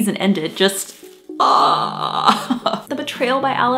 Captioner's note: laughs